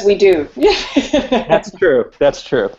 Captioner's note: laughs